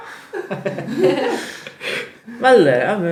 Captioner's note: laughter xD